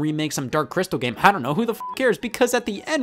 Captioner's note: beep